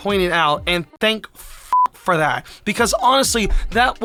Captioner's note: beep